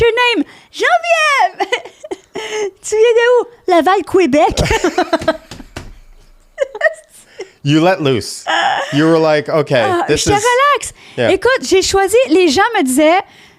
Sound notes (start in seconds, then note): 5.9 laughing; 10.4 in french